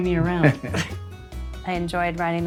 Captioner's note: laughs